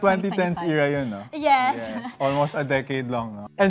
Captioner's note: laughs